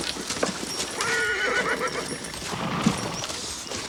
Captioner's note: horse neighs